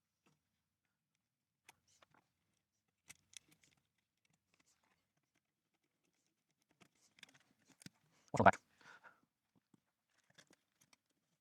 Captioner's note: silence